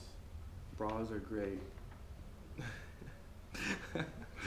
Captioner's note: laughs